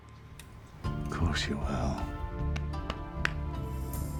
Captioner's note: scottish accent